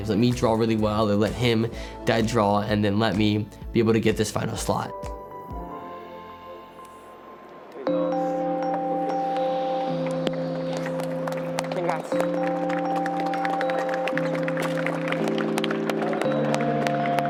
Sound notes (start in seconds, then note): 13.9 applause